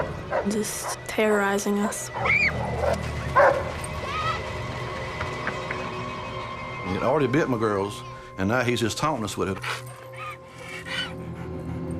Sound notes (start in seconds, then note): 3.3 barking continues